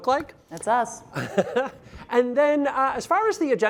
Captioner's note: laughs